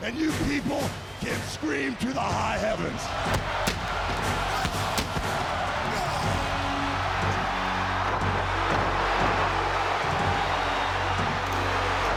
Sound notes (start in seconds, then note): 3.2 pyro bangs; 7.0 audience cheers; 7.0 pensive music